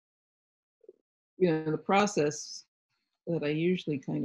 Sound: none

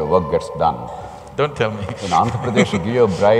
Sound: laughs

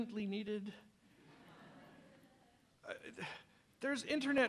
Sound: laughter from audience

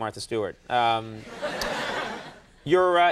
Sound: laughs

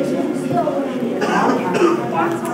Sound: man coughs

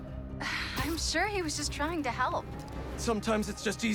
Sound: sigh

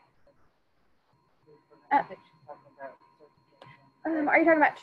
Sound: speaking faintly

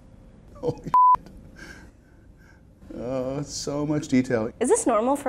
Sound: laughs

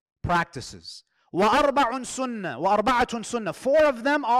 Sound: Arabic

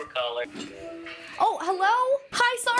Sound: FaceTime acception sound

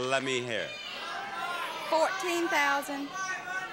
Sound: audience yelling

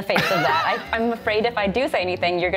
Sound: laughing

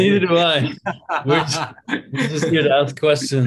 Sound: laughs

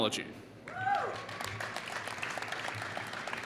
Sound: applause

